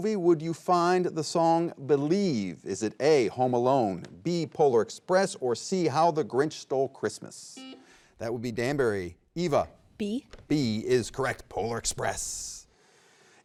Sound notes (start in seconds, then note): 7.6 button beeping